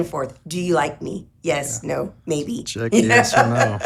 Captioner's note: laughs